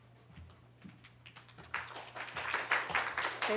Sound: applause

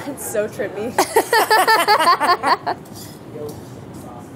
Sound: all laughing

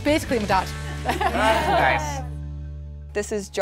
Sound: laughing

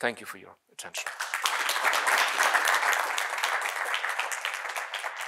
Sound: audience applauding

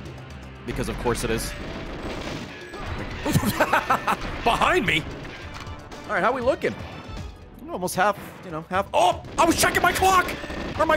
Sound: laughs

